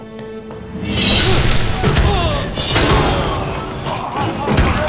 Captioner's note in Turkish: Darp sesleri; Kılıç sesleri